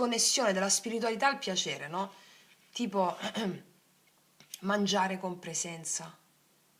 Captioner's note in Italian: schiarire la voce